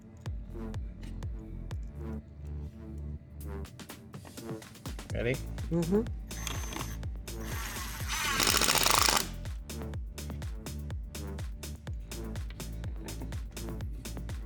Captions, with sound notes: (upbeat music) Ready? Mm-hmm. (drill whirring)